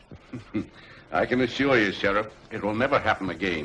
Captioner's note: chuckles